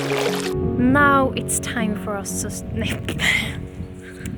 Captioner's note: stutters